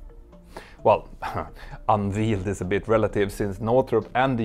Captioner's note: chuckles